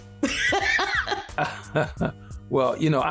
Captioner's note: laughter